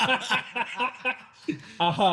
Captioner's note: both Laughing